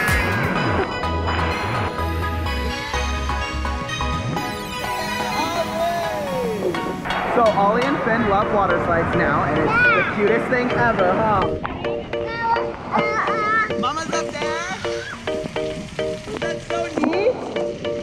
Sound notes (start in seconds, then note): 0.3 upbeat music; 12.3 babbling